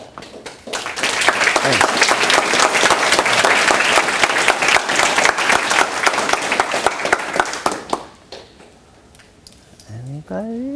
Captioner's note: applause